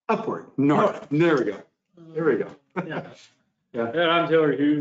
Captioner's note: laughs